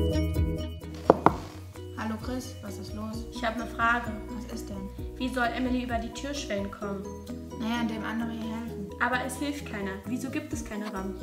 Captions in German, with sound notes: (Türklopfen.) Hallo Chris. Was ist los? Ich habe eine Frage. Was ist denn? Wie soll Emily über die Türschwellen kommen? Na ja, indem andere ihr helfen. Aber es hilft ihr keiner. Wieso gibt es keine Rampen?